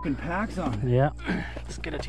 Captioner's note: grunt